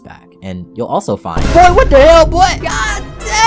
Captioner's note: dramatic Sound Effects